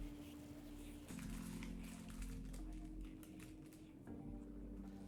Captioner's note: paper bag crinkles